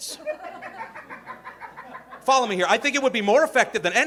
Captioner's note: audience laughing